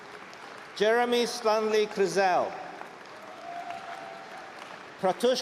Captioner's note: applause